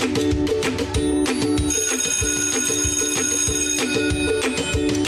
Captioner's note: bell